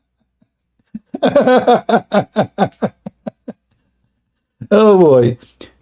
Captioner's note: Ketawa